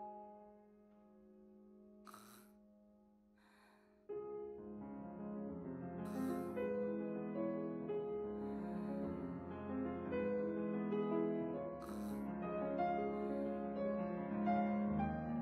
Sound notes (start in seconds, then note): 7.2 sigh; 11.7 sighs